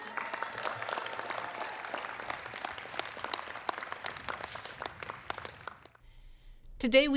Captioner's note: applause